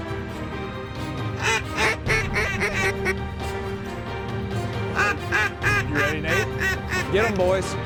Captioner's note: duck calls